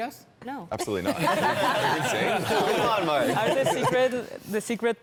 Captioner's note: participants laugh